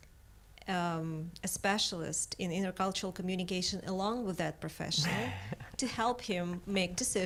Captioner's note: laughs